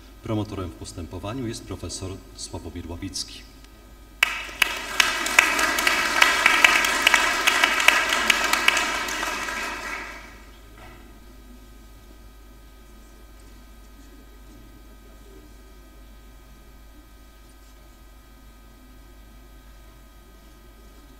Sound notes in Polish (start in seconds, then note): 4.2 oklaski